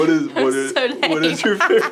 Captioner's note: laughter